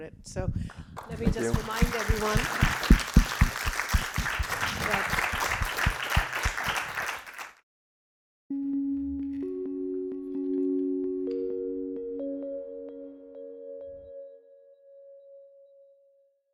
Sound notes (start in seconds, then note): 2.5 audience clapping; 8.5 soothing music